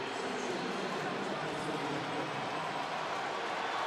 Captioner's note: pa announcement